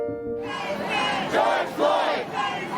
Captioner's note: crowd chanting